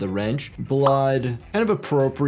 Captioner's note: soft music; graphics popping